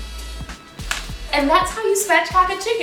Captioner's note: bone cracking